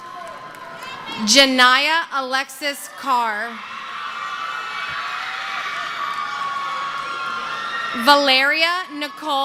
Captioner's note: cheering; screaming